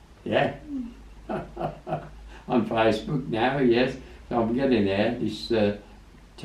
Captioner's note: laughs